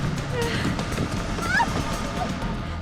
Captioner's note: screams